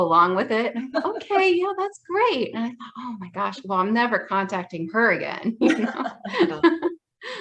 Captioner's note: laughs